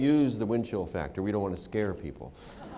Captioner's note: laughter